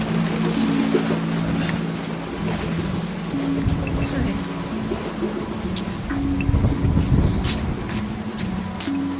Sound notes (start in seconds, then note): 5.7 kissing sound